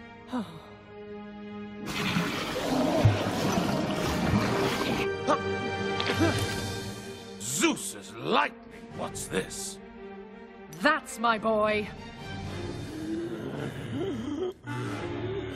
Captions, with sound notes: (Sighing) (Coughing and gasping) Zeus' lightning, what's this? That's my boy. (Herry and Minos groaning)